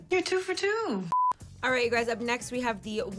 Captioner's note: screen beeps